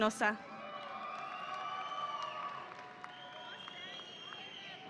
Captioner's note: audience applauding